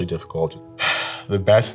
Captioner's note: sighs